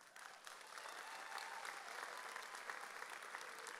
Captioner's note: audience applauds